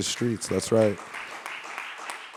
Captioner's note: audience applauding